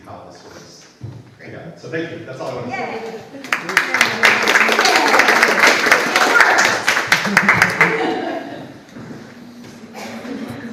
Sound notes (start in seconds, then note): 3.4 audience applauds